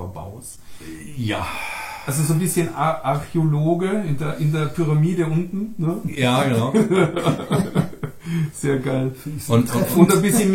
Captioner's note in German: atmet aus; lachen